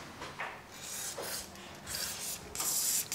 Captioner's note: hissing of the spray can